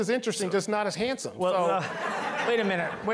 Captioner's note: all laughing